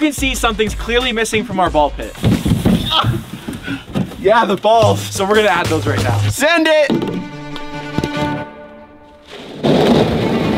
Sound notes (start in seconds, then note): 2.7 exclaims; 6.8 upbeat classical music